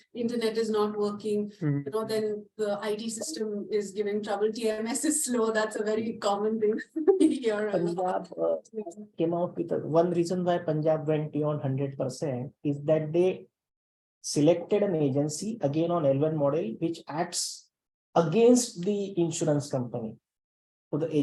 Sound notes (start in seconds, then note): 6.8 laughs